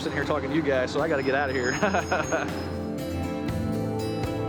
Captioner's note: chuckles